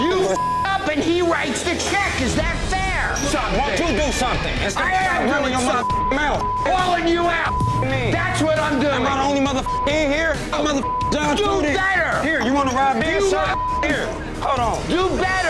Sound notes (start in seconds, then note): 0.3 beep; 7.4 beep